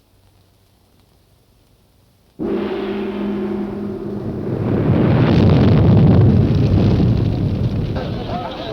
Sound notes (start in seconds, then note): 2.4 gong crashing; 4.9 earth rumbling